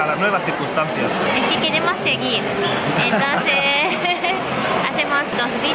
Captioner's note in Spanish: risas